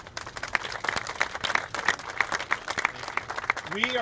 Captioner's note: applauding